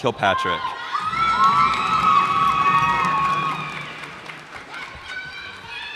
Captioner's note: cheers and applause